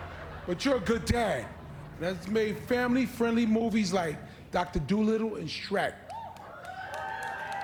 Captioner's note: laughter